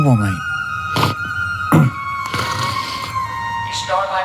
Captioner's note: snoring